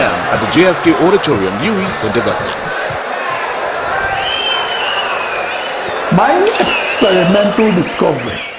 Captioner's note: wild applause and cheering for 22 seconds